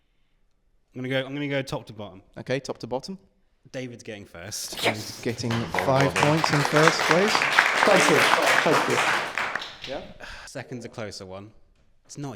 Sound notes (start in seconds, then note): 7.2 applause